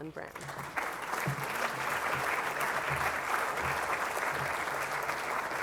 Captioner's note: applause